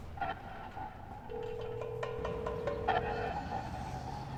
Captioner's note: phone line trilling